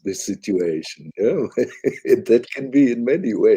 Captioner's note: laughs